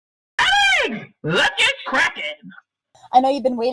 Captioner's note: voiceover